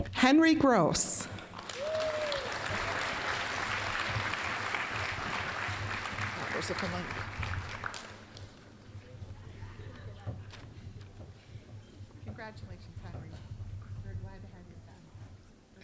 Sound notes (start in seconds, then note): 1.2 applause